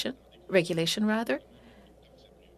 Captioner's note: speaking French